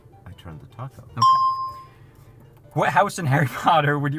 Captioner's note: bell rings